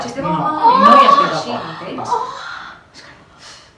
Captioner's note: orgasm